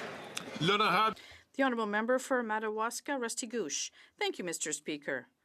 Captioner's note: some Applause